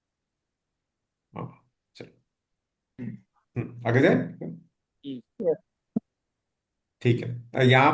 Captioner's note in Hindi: गला साफ़ करने की आवाज़